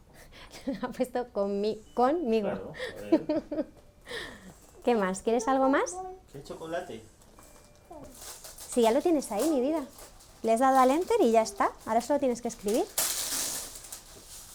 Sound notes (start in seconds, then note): 3.2 laughing